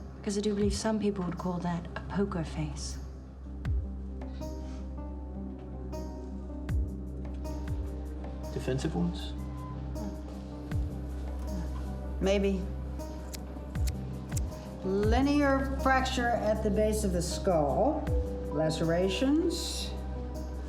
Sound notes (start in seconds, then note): 4.2 scoffs